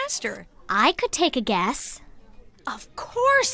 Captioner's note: none